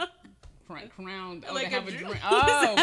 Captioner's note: laughing